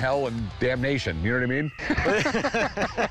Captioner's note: laughter